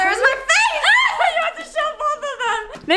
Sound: yells

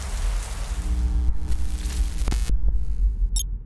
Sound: electrical buzzing

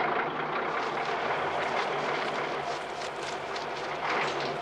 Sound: engine cranking; engine humming

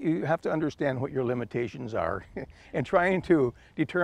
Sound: chuckles

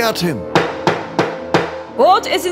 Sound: hammer sound

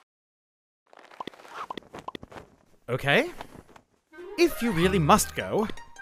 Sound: sound effects: Alien walking out from behind word; sound effects: Alien walking, pulling out flag

